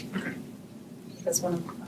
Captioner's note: clears throat